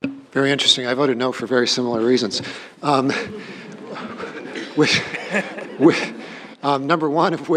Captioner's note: laughter